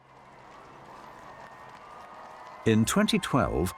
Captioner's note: crowd cheering